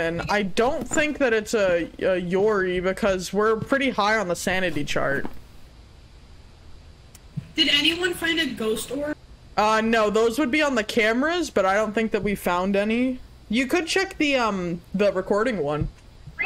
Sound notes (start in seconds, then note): none